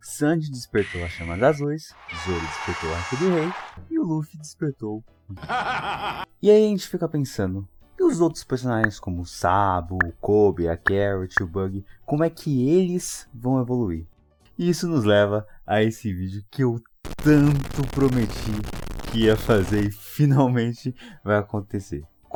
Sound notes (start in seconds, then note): 5.3 strange laugh